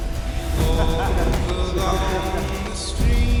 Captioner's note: men laugh